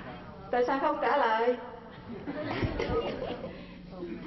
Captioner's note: laugh